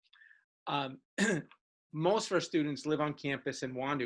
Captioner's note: coughs